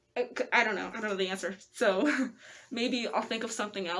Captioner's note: nervous laugh